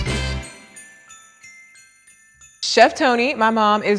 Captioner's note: chimes tinkling